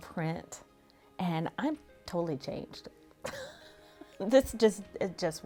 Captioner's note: laughs